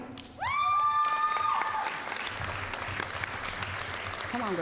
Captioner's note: applause, cheering